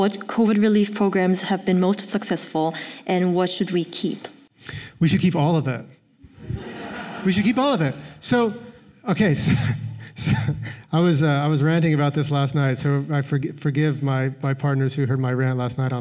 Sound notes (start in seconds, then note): 6.4 laughter; 8.9 laughs